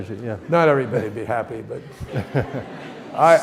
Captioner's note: audience laughs